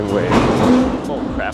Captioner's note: crashing sound